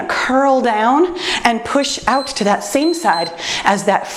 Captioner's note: timer beeps